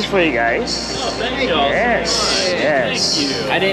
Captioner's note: firefighters exclaiming